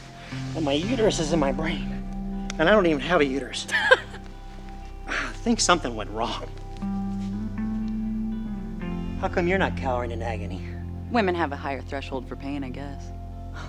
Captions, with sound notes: And my uterus is in my brain and I don't even have a uterus. (laughs lightly) - I think something went wrong. How come you're not cowering in agony? - Women have a higher threshold for pain, I guess.